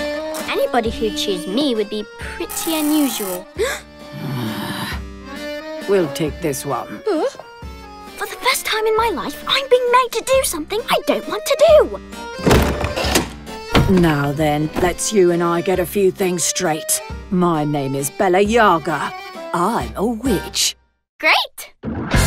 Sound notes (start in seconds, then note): 3.0 gasps; 4.1 groans; 7.2 gasps